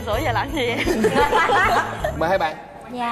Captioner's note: laughs